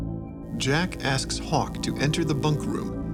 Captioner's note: voiceover